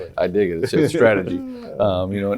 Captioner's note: laughs